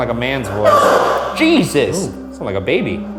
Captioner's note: spirit box chattering